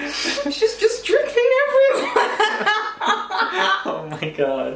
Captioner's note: both laugh